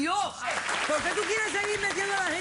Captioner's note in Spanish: aplausos